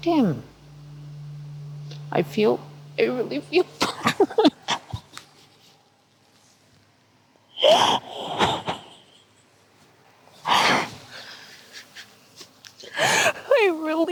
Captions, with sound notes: because I wasn't able to protect him. I feel, I really feel... (sobbing)